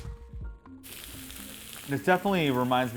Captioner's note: duck Sizzling